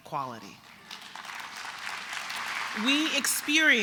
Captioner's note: applause